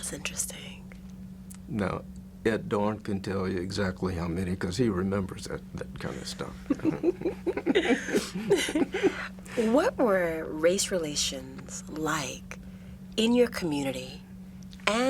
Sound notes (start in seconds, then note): 6.4 both laugh